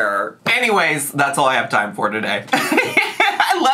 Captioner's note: laughs